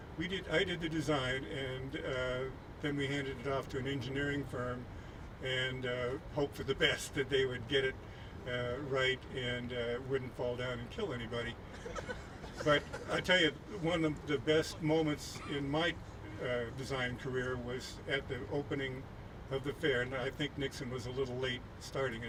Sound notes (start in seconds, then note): 11.7 laughing